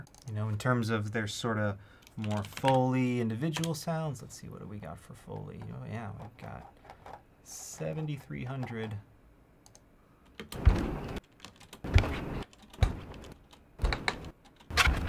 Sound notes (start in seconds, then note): 11.8 footstep sounds play